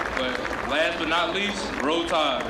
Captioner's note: applause